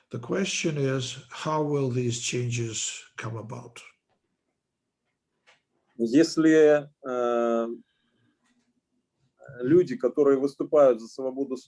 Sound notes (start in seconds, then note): 6.3 speaking Russian language